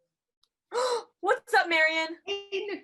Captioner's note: gasp